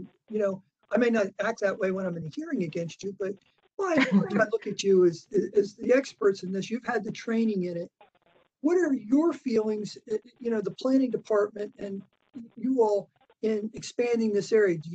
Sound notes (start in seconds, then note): 3.9 laughter